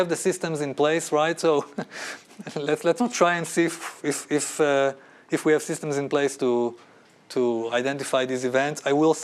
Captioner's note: laughter